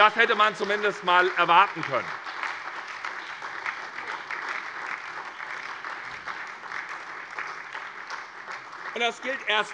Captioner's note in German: Beifall SPD und DIE LINKE